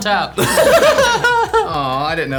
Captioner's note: all laughing